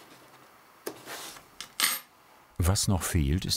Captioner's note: clinking